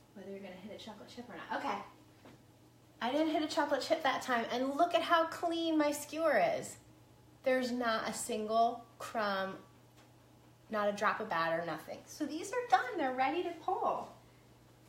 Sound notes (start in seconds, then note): none